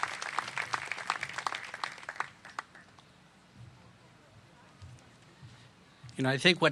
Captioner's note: applause